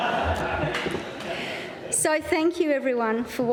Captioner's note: laughter